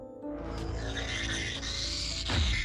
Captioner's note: screeching